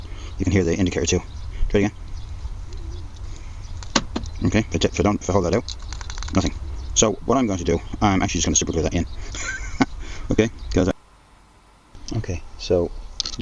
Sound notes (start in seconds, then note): 3.8 central Locking makes sound again